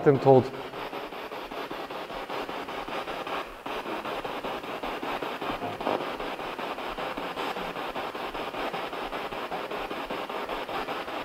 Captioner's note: noise of the spiritbox in the background